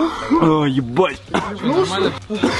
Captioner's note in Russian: кашляет